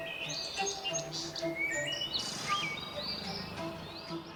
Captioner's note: soft music; birds chirping